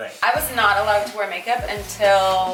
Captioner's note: none